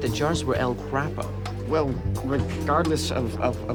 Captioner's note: stammering